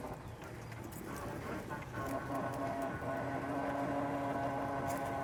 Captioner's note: aircraft continues whirring